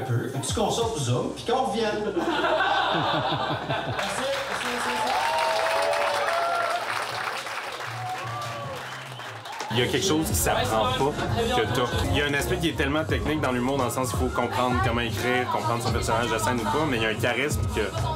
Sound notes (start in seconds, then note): 2.2 laughs; 4.0 shouts and applause